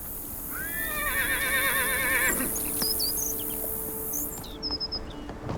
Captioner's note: birds chirping; horse neighing